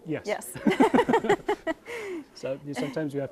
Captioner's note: both laughing